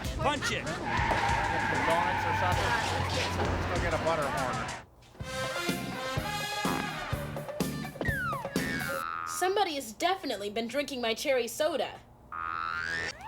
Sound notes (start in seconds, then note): 1.9 tires squeal